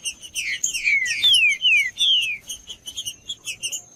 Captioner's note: trinca ferro cantando